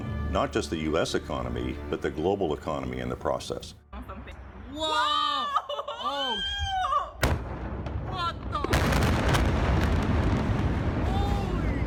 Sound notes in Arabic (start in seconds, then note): 3.9 صراخ المتفرج; 5.5 انفجار قوي